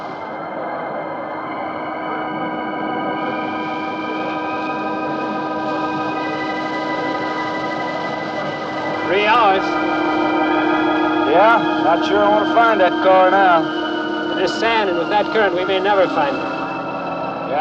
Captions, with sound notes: (crowd murmuring) (eerie instrumental music) - Three hours. - Yeah? Not sure I wanna find that car now. - With this sand and with that current, we may never find 'em.